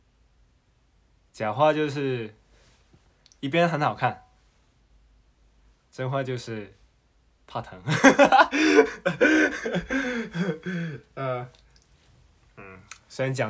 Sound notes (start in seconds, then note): 8.8 cAckLinG